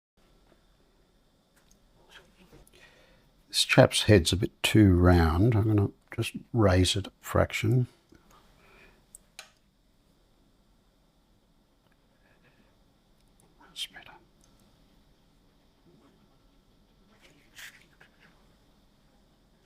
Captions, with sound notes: [silence] This chap's head's a bit too round. I'm going to just raise it a fraction. [silence] It's better.